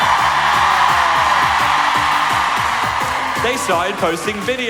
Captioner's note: audience cheer